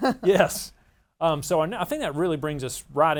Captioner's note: laughs